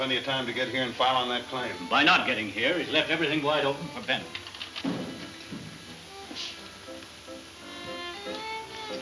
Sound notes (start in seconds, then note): 3.2 footsteps